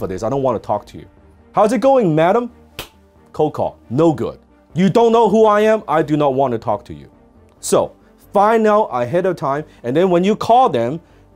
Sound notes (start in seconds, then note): 2.8 claps